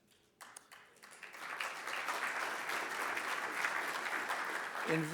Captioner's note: audience applauds